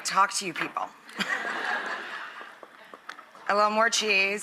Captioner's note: audience laughs